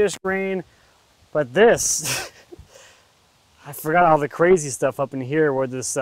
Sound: chuckles

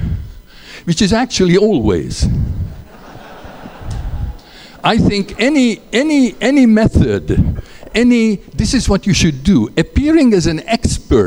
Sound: laughter

